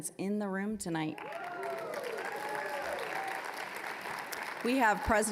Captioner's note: applause, cheering